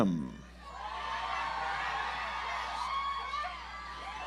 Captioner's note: audience applauds